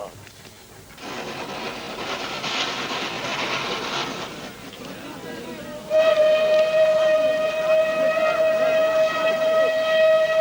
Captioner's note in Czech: supéní na houkání přijíždějícího vlaku